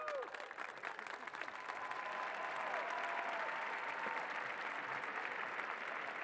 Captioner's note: cheers and applause